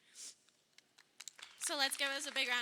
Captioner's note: crowd applauding